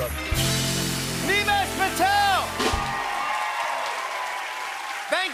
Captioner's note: cheers and applause